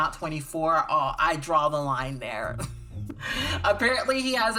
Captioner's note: laughs